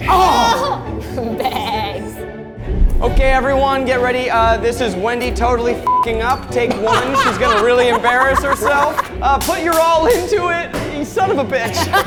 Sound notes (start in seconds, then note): 5.8 beep; 11.6 everyone laughs